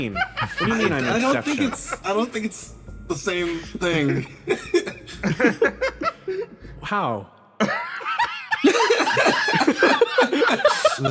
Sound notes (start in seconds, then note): 3.5 laughs; 7.6 laughs